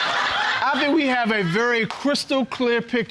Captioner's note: audience laughing